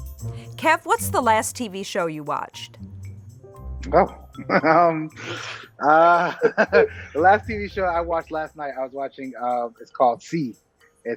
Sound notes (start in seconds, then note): 5.8 laughing